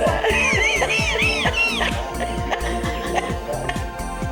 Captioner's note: they laugh